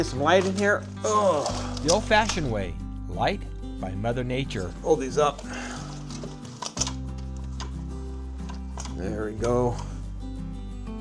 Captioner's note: augh